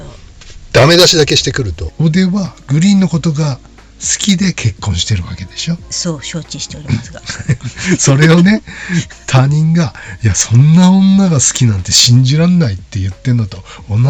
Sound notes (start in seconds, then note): 6.7 laughs